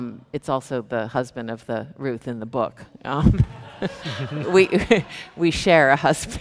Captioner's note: chuckles